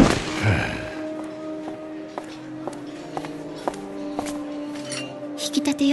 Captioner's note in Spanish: Jack suspira; pasos de tacón alto